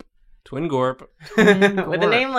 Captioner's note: laughs